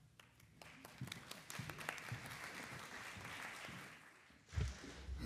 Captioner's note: attendees clapping